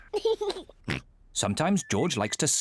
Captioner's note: laughs